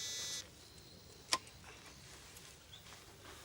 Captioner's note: beeps